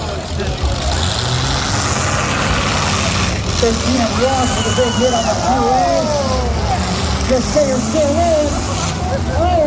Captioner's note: engines rev and crowd cheers